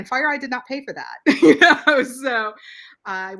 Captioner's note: laughs